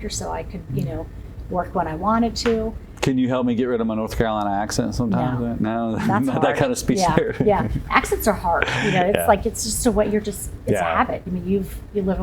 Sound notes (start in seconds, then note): 5.9 chuckles